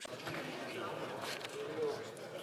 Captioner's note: speaking French